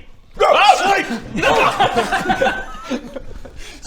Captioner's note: laughter